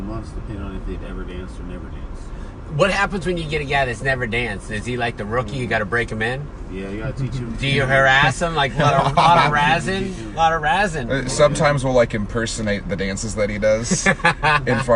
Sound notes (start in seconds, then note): 8.7 laughing